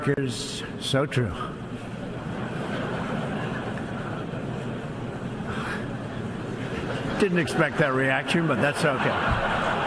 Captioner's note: laughter